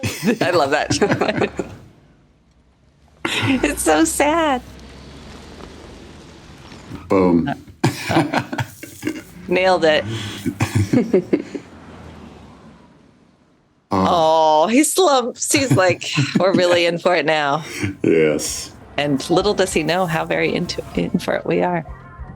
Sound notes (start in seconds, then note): 0.0 laughs; 6.9 laughs; 10.6 laugh